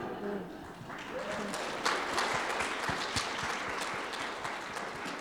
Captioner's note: audience laughing; audience applauding